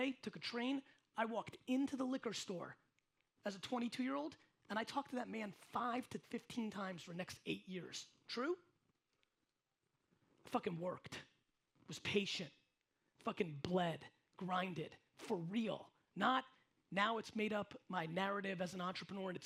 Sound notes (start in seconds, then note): none